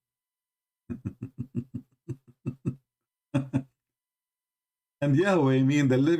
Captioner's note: Ketawa